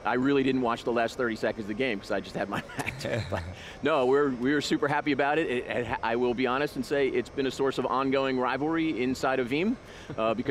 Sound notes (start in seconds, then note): 2.6 laughs